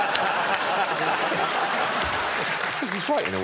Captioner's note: laughter